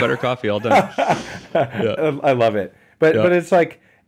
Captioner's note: laughs